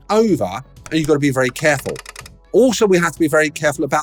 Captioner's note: machine clicking